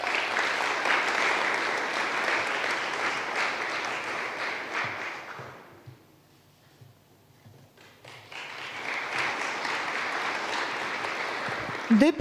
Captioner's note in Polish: oklaski